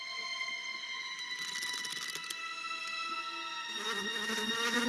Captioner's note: thrilling music; lock rattling; insect buzzing